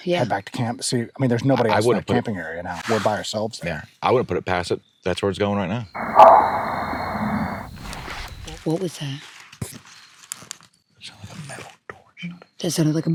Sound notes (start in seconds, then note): 6.4 object bangs